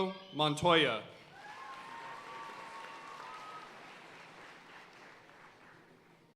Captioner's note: audience cheering and applauding